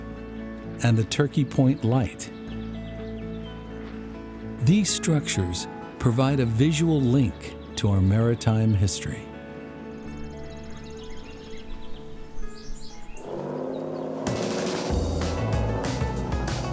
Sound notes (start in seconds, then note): 10.6 birds chirping; 13.2 boat engine sound